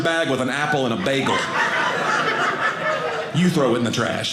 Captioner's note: audience laughing